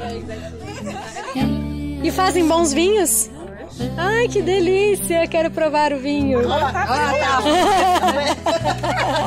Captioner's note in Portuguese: risos